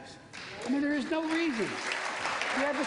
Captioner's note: applause